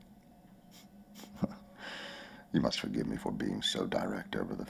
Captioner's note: chuckling